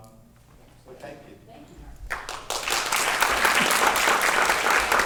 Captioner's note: applause